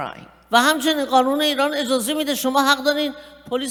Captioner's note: speaking persian